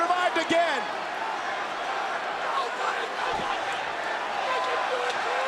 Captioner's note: crowd cheering